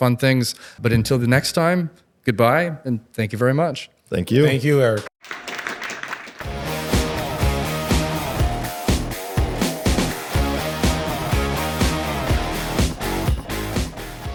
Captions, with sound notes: and all these other fun things. But until the next time, goodbye, and thank you very much. Thank you. Thank you, Eric. (audience applauds) (upbeat music)